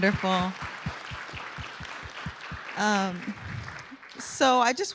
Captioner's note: applause